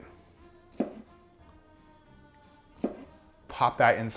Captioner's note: chopping